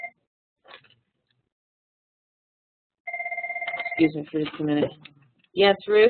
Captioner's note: phone ringing